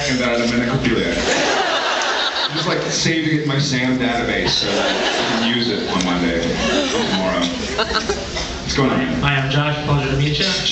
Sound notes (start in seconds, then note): 1.2 laughs